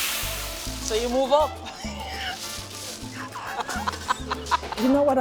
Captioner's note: laughing